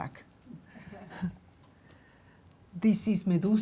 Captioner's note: laughing